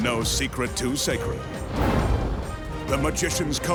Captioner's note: smoke puffing